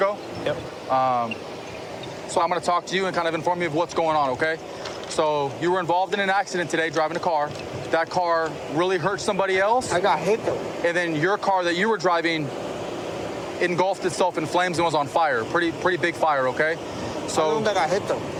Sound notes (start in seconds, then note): none